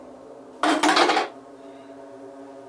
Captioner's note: drops axe